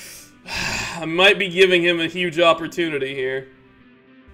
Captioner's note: sigh